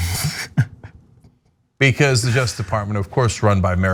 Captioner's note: laugh